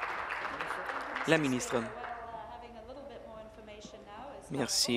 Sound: applause

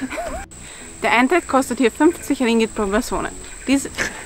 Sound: laughs

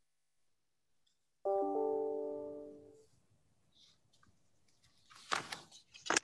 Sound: computer notification rings

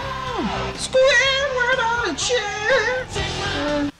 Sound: nasally voice; groaning

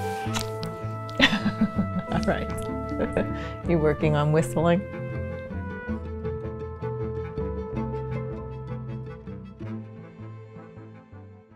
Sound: laughter

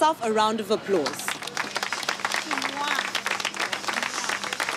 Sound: hands clapping

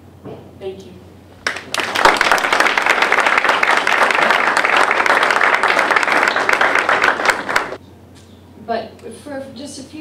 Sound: applause

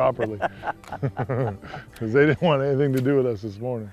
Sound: laughter

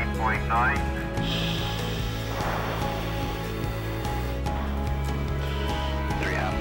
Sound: cockpit ambiance

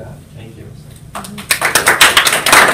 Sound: applause

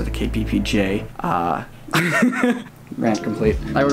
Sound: laughs

